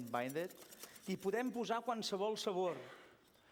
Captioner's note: non-english speech